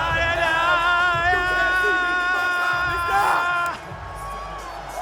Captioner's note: all cheering